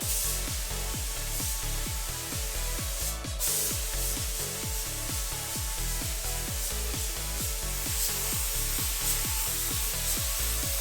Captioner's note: paint sound